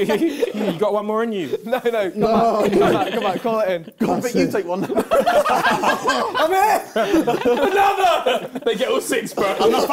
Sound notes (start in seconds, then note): 4.8 both laughing